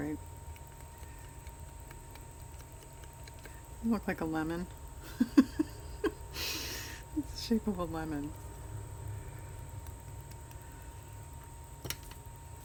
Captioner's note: laughs